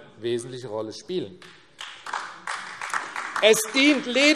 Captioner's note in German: Beifall AfD